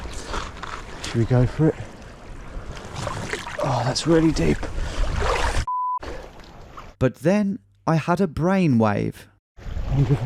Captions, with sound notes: Should we go for it? Oh, that's really deep. (beep) (water sloshing) But then I had a brainwave.